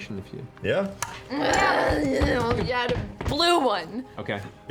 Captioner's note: growling